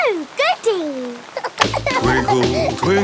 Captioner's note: giggling